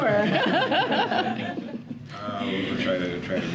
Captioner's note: laughter